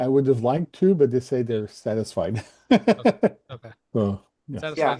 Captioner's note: laughs